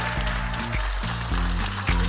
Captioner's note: cheers and applause